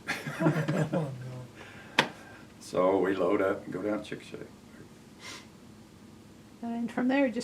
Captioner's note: laughs